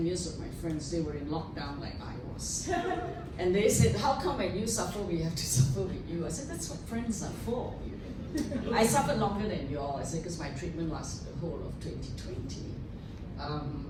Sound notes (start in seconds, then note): 2.6 laughter